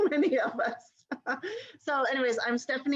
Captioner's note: laughter